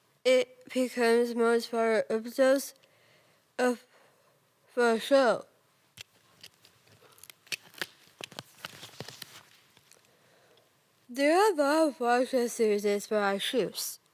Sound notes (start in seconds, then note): 2.8 soft breathing; 6.0 rustling; 6.3 clicking and rustling; 9.6 rustling